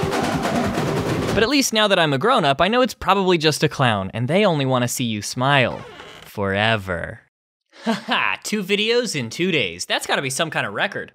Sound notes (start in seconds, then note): 0.0 drums; 5.7 squeak